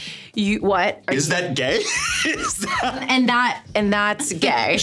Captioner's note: laughing